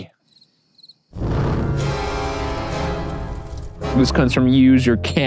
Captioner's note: crickets chirping; ominous music